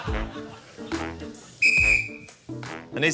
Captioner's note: blows whistle